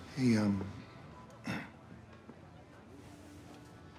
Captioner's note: clears throat